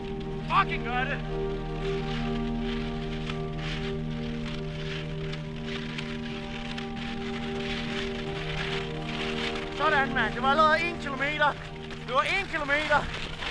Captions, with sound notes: You're fucking doing it! [snow squelching] That's it! That was already 1 km. That was 1 km!